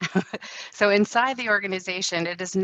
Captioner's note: laughing